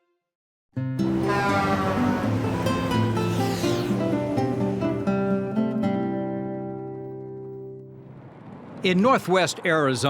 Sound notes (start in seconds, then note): 4.6 horn honks; 4.6 lighthearted music